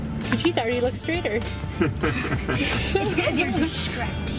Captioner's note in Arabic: جميع يضحك